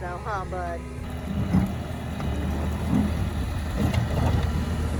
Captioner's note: skid steer revving